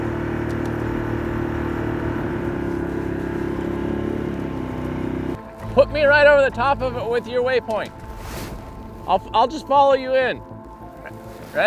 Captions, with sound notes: (boat motor revving) - Put me right over the top of it with your way point. I'll just follow you in.